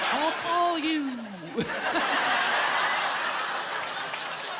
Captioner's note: laughter